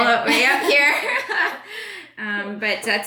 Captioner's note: laughs